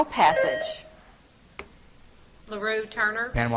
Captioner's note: buzzer trills